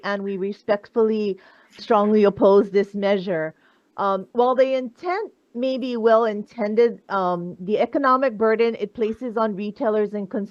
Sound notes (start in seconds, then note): none